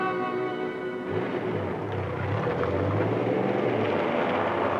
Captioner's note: car drives off; road sounds